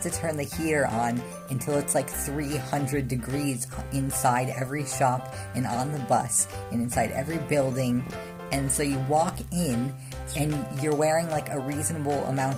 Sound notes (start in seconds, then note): none